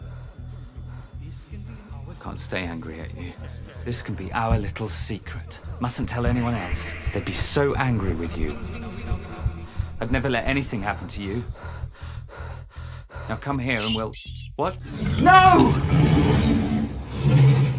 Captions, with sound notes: (deeper voice echoes) I can't stay angry at you, this can be our little secret, mustn't tell anyone else, they'd be so angry with you - [Deeper Voiceover] You're nothing without me. - [Voiceover] I'd never let anything happen to you. Now come here and we'll, what, no! (roaring)